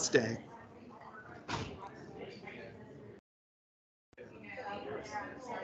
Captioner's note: attendees chatting